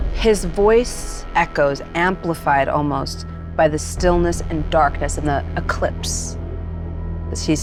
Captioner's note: none